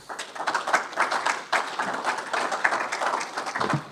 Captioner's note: audience applauds